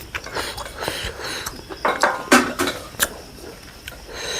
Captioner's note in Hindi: नाक से की जाने वाली आवाज़; हांफने की आवाज़